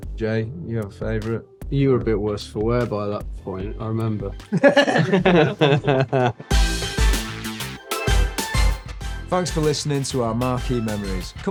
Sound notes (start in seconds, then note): 4.5 everyone laughing